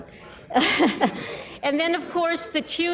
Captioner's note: laughing